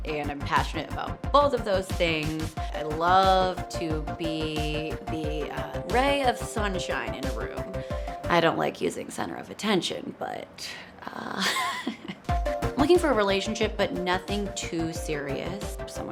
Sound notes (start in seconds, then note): 11.3 laughing